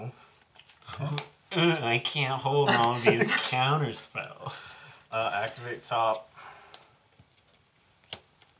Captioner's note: mocking